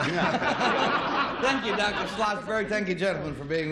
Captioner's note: laughter